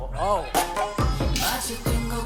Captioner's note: bouncing